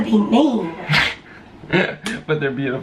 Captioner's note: chuckling